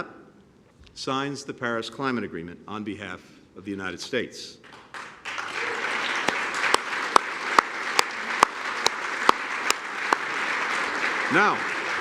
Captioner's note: applause